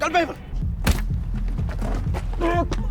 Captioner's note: whack